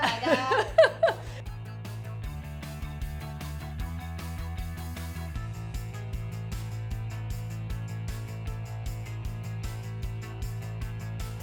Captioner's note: laughter